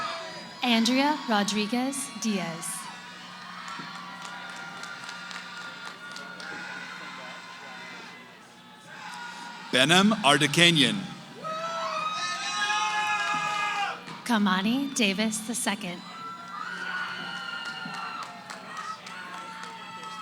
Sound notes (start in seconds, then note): 3.1 cheering